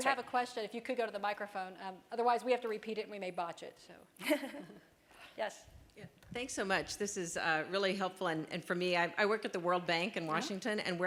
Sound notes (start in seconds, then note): 4.2 laughter